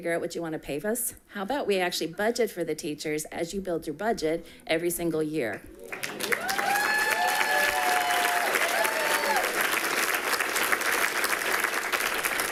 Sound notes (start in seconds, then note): 5.8 people cheering and clapping